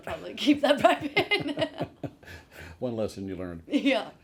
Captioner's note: both laughing